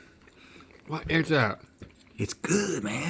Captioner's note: none